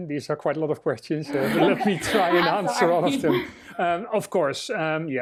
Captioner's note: laughter